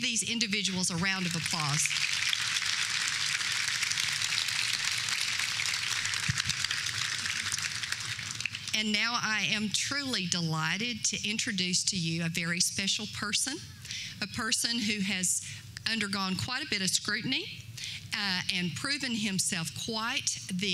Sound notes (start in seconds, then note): 3.6 applause